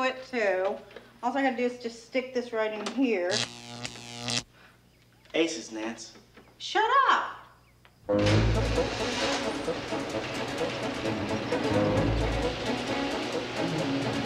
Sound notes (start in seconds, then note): 3.2 electricity buzzing; 7.9 upbeat music; 8.1 garage doors clattering